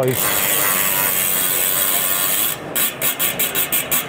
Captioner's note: wheels spinning